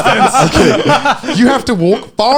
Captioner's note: laughing